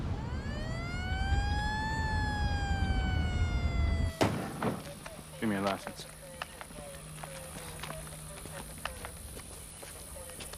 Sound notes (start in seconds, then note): 2.0 police Siren